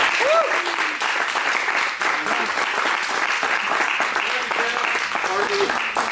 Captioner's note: applause